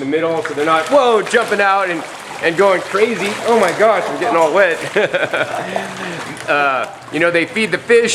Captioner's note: laughs